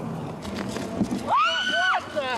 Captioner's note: screams